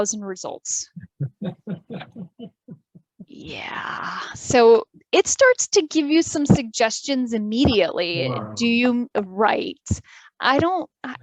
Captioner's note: background Laughter